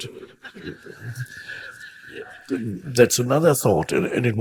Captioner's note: audience laughing